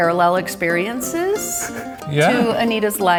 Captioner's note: laughing